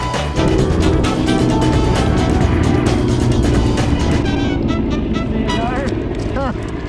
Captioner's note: helicopter sounds